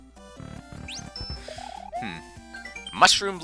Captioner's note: breathing